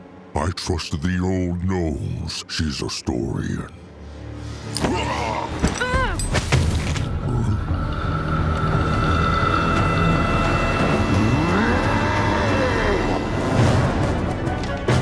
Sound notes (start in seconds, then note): 11.3 roars